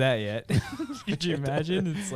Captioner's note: laughing